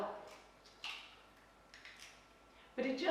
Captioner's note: egg cracking